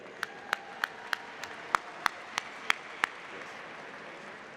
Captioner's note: applause